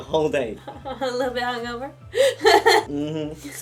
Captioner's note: laughs